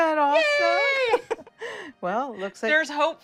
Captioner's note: laughs